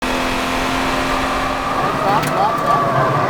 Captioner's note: car engine revving; brakes screeching